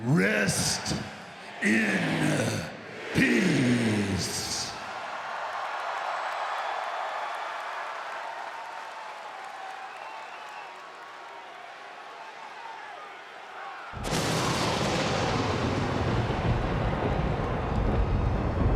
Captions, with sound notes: rest in peace. Rest in peace. (audience cheers) (thunder rumbles) (audience cheers)